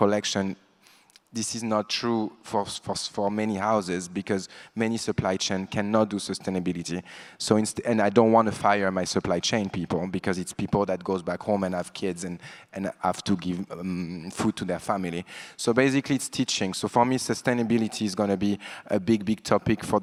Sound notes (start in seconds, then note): none